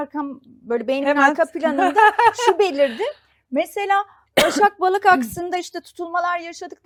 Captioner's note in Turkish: kahkaha